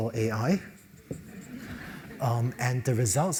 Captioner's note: laugh